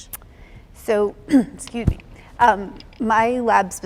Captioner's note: clears throat